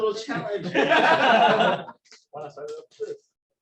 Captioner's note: laughter